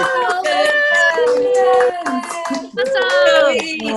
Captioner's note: many people applauding and speaking over each other